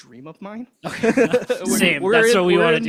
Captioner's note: laughs